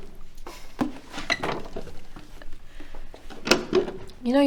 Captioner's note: Lucy chuckles